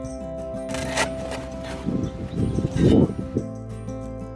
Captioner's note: shovel scraping